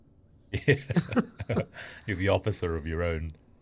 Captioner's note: both laughing